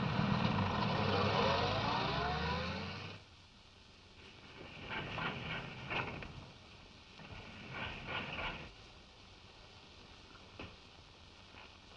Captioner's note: car driving off